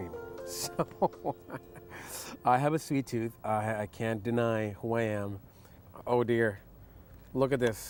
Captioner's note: laughs